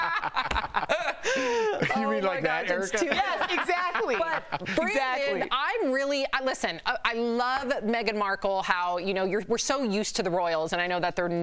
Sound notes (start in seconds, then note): 5.7 laughter